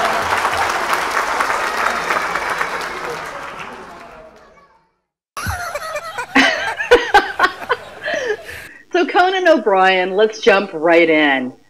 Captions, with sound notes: (Conan laughs) So, Conan O'Brien, let's jump right in.